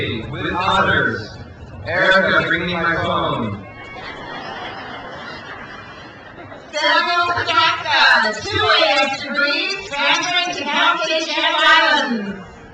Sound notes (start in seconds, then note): 3.8 crowd laughs